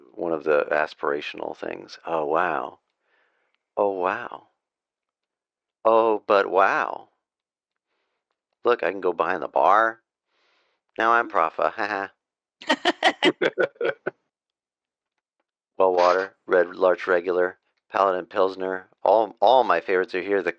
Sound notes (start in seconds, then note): 12.7 laughter